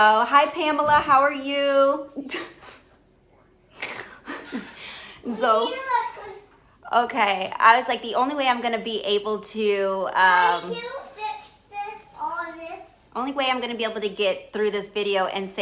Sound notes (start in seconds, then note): 3.8 laughing; 5.3 child talking